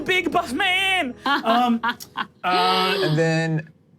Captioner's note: laughing